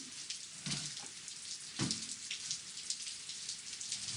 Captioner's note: rain falling